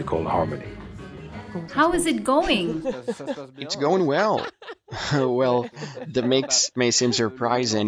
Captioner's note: laughs